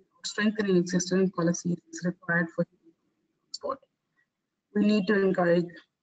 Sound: audio static; audio static

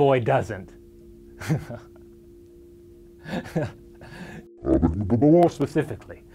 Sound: bad VHS sound; laughs

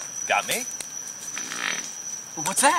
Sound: farting noises

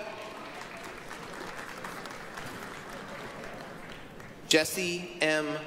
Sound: applause

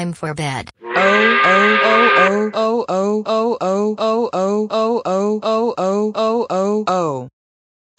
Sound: angry work whistle

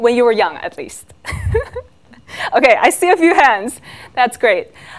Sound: laughs

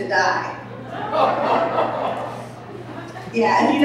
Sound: audience laughing

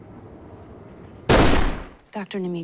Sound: gunshot firing

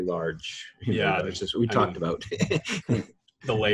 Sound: laughs

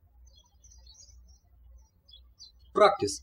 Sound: birds chirping

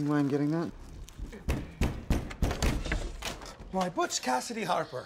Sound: loud knocking

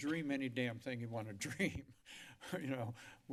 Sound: laughter

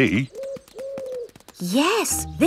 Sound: owl hooting

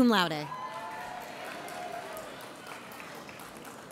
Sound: audience cheers

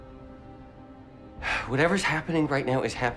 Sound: sighs

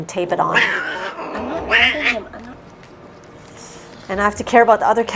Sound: loud meows

